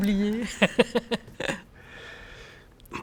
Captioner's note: laughs